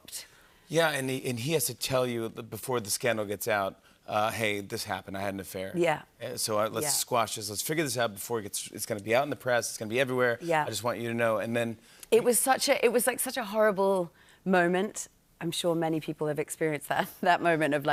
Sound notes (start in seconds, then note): none